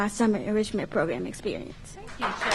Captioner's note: applause